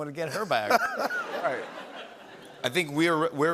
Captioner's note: laughter